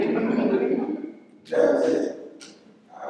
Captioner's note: laughter